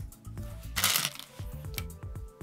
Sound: stones rattling

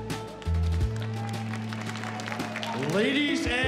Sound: cheers and applause

